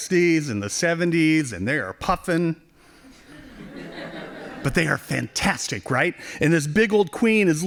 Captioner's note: laughing